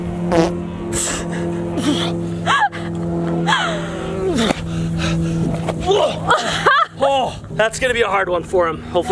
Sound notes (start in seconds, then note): 0.1 groaning; 2.7 laughs; 5.1 breathing heavily; 5.8 grunts